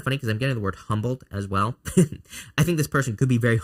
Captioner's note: laughs